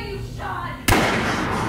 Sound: blam

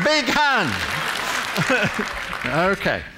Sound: applause

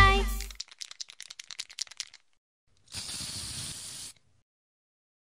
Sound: shaking of spray can

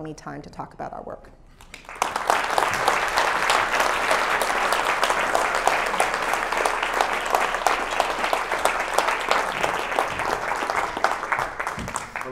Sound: applause

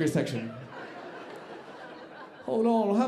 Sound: audience laughing

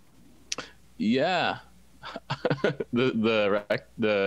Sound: laughs

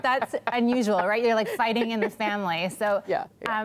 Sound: laughter

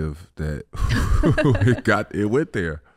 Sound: Amber laughing; Iman sighs

